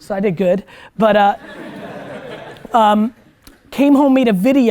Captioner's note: students laugh